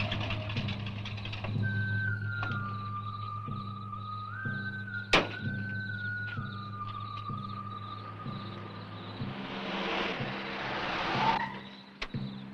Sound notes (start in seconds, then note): 2.1 crickets chirping; 2.1 eerie music